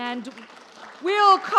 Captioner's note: audience applauds